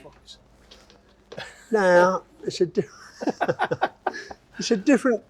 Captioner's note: laughs